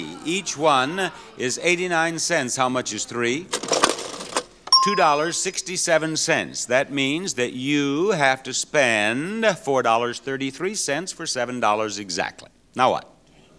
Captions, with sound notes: Each one is 89 cents. How much is three? (cash register dings) $2.67. That means you have to spend $4.33 for $7.00 exactly. Now what?